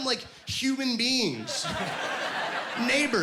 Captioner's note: laughing